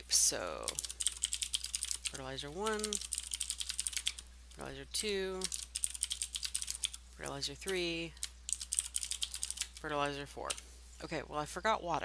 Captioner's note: typing